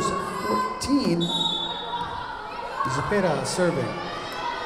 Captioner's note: whistle blowing